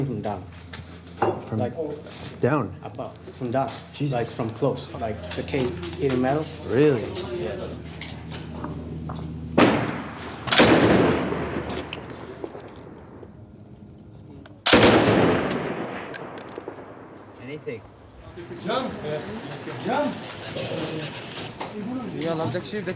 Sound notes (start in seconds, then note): 9.8 gun fires; 14.6 gun fires; 18.8 speaking in foreign language